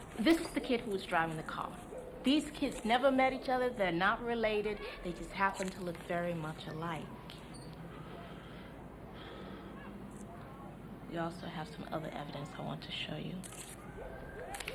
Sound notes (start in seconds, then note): 9.2 Cederic inhales and exhales; 14.3 paper crackling; 14.3 people chattering